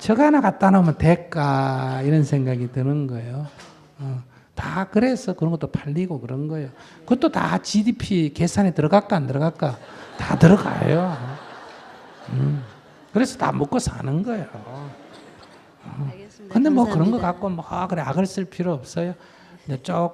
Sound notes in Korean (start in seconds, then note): 9.6 청중 웃음